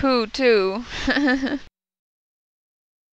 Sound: laughing

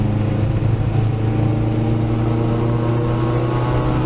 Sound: simulated car growling

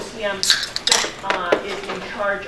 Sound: pop can opening

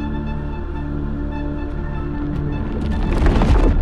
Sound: soft footsteps; crushing sounds

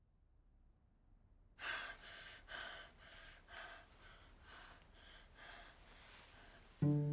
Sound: fast breathing

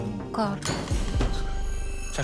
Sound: clatters

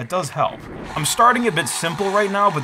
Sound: boat revving

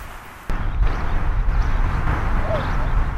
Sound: wind

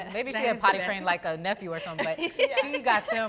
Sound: laugh

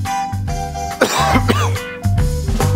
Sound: cough

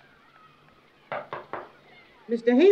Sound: knocking on door

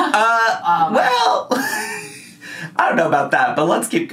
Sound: chuckles softly; laughing

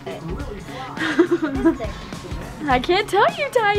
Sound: laughing

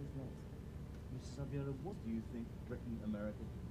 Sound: voiceover

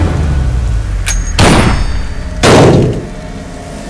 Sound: gunshot

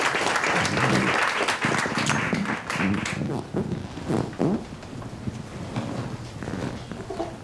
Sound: audience applauding; chairs squeaking; clothes rustling

